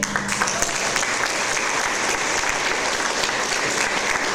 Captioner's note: audience applause